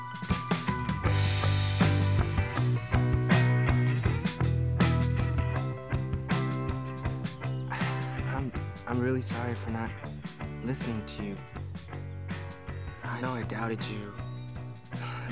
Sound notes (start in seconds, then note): 0.1 upbeat music; 4.5 birds chirp